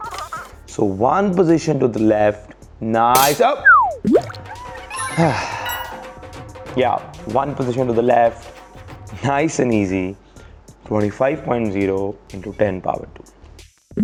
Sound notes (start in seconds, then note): 3.2 abrupted with funny sound effects & sound of drums